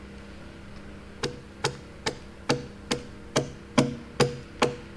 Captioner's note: tool banging